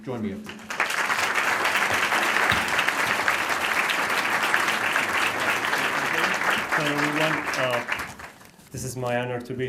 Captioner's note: applause